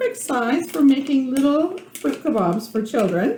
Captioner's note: turning handle on hand mixer